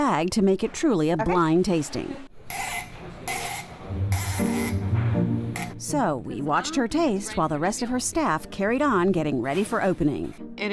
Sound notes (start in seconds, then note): 2.6 cork unscrews